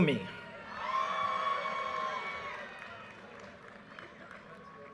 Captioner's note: audience cheers and applause